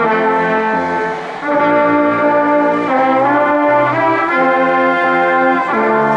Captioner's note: ceremonious music continues; crowd cheering and applauding